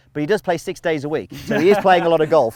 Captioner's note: laughs